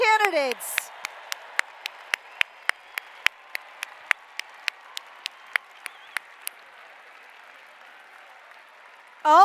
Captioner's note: applause